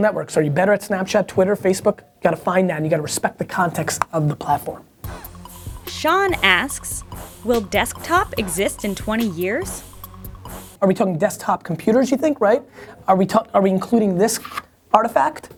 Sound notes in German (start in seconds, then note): 6.0 Voice-over